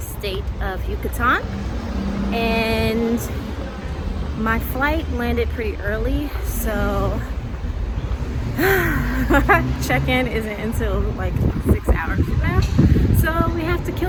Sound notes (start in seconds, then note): 8.5 sighs